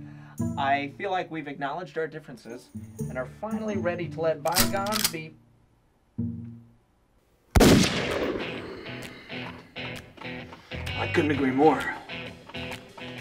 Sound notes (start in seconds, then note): 7.5 gunshot